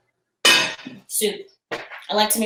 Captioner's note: lid clangs